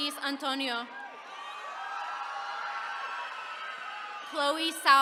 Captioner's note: attendees cheering